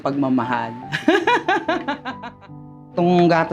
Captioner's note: laughs